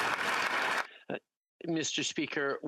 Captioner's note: applause